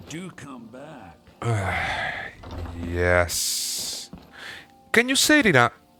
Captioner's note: sigh